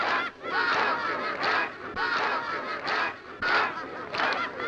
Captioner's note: group shouting